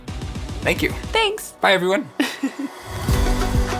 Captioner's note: laughs